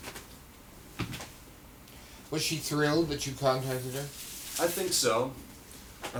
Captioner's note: none